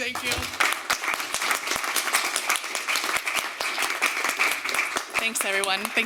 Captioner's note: applause